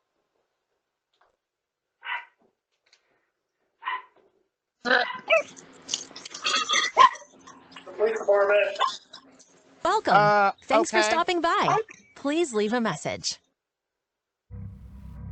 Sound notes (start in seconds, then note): 2.0 Ella barks; 6.9 Ella continues barking; 9.8 via Ring doorbell, uneasy